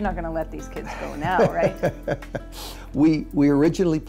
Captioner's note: laughs